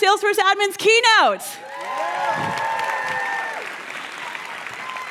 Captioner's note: cheers and applause